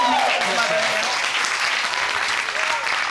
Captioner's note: audience cheering